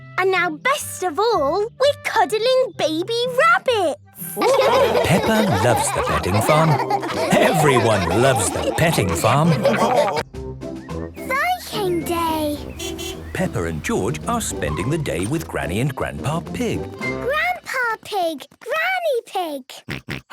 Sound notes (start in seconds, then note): 4.2 all laughing; 12.6 beeping